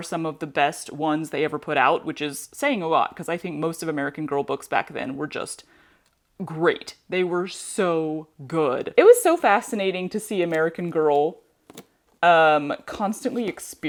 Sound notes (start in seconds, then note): none